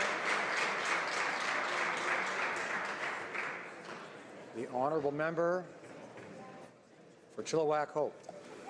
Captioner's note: some Applause